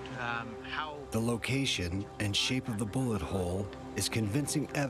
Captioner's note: voiceover